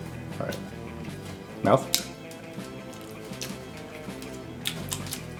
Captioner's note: loud chewing